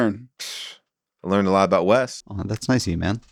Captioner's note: whistles